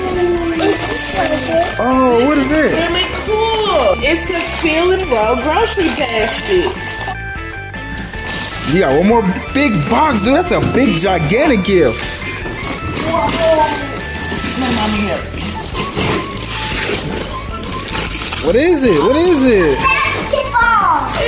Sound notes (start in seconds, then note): 15.6 paper tearing